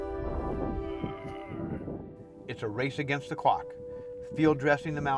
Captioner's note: grunting